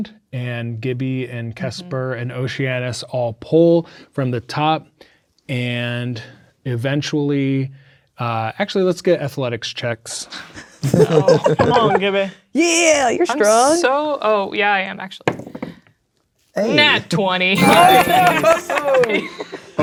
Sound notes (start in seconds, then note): 10.8 players laughing; 15.7 dice rolling; 17.5 triumphant beeping sound; 17.5 players celebrating